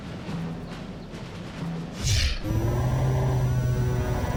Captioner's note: air whooshes; computerized humming